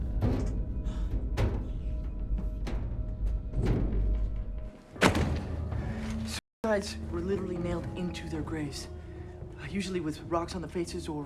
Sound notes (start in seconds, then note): 0.0 eerie music; 0.3 elevator top thudding; 4.9 book thuds